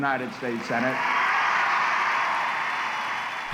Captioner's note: audience cheers and applauds